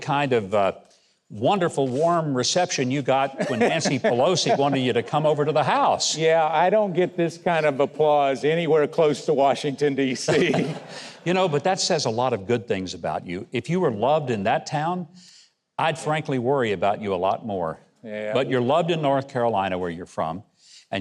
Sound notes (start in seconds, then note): 10.1 Mike chuckling